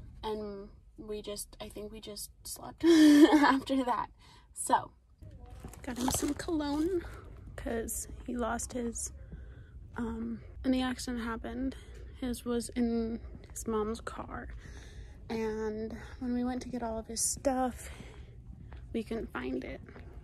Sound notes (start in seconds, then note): 2.9 laughs